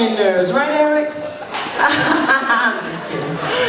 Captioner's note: laughs loudly